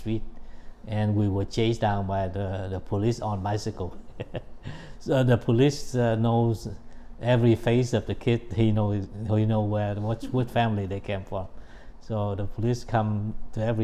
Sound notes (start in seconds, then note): 4.0 laughs